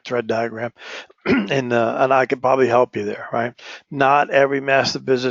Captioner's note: cough